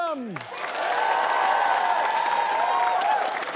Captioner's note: cheering, applause